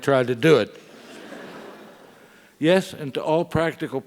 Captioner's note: laugh